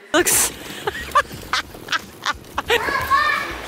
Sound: laughing

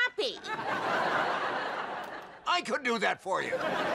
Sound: audience laughing

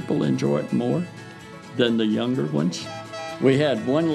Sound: whistle blows

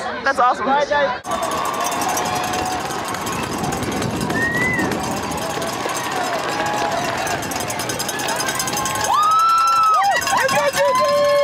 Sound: cheers and applause

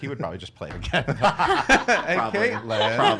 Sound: laughter

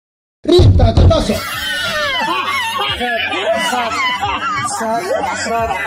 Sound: prolonged laughter

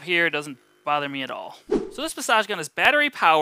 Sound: air whooshing

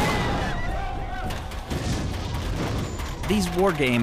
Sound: machine gun fire

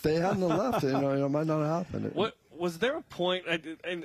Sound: laughter

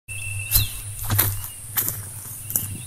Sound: footsteps

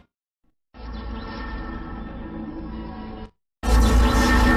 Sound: electricity zapping as mysterious laboratory music plays; electricity and mysterious music continuing

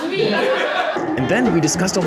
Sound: laughter

